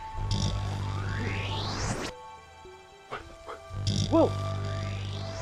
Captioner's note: electronic whirring